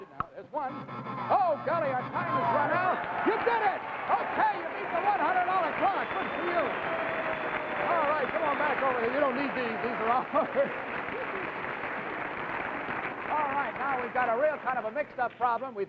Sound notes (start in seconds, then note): 1.3 buzzer chimes; 4.2 audience cheers